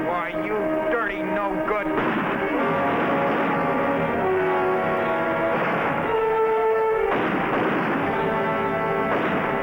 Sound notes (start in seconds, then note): 2.1 gunfire blasting; 3.9 suspenseful music